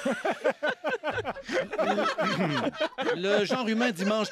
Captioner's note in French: rires